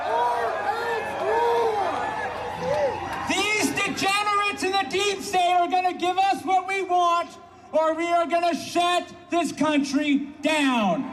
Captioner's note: applause